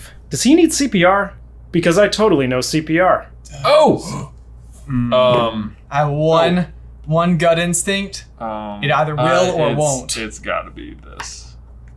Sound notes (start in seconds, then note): 4.7 gasps